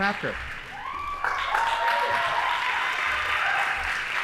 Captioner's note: audience applauding